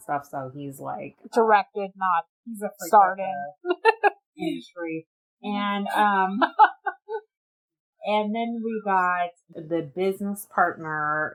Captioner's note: laughs